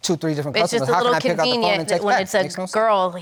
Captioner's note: none